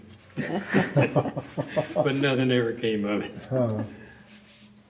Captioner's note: laughter